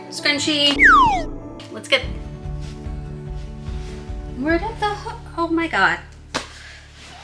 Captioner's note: whistles